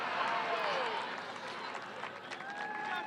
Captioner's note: cheering